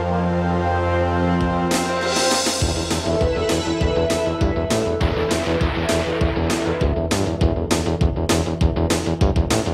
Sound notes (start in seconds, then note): 2.5 lively upbeat music continues; 4.7 missiles whooshing